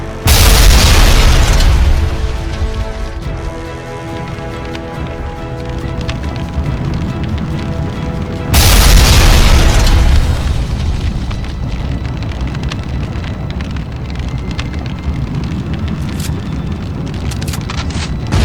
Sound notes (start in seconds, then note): 0.3 explosion booms; 4.4 flames whooshing; 8.5 explosion booms; 17.2 gun clicks